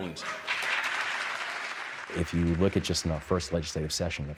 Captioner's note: audience applauding